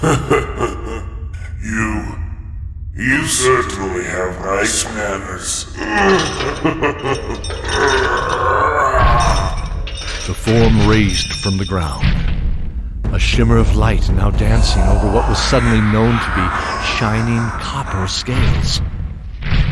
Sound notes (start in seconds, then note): 0.0 chuckles; 5.5 chuckle and grunts as he sits up to walk slowly